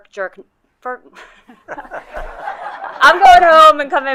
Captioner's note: colleagues laughing